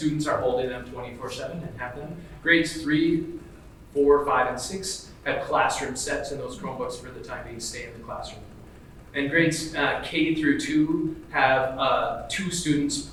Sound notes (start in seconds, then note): none